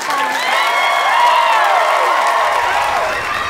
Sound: applause

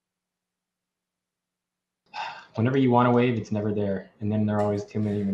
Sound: sighs

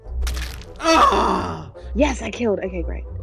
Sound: squelching

